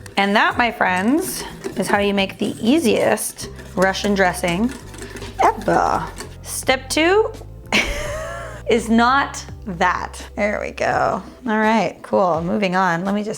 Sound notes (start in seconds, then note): 0.0 whisk rattling; 7.7 laughing